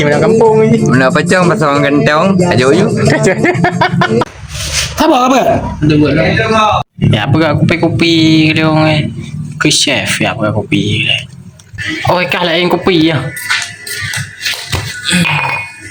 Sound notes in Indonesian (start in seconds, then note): 3.2 tertawa